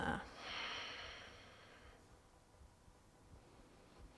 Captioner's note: deep breaths